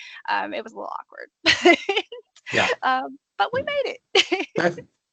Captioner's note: laughing